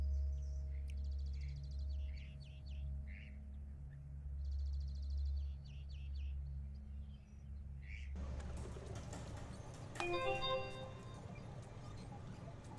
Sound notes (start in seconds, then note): 10.0 soft computer alert